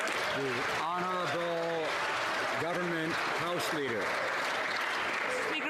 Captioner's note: some Applause